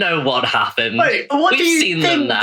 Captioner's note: laughs